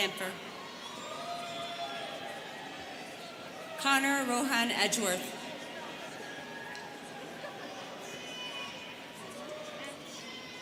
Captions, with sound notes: (students cheering) Conor Rohan Edgeworth. (students chattering)